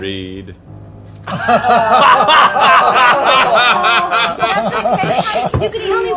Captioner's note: laughter